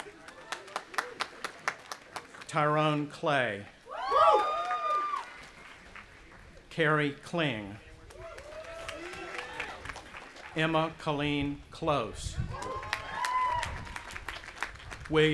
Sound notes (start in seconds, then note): 0.0 audience applauding; 3.8 cheering; 8.1 audience applauding and cheering; 12.5 audience applauding and cheering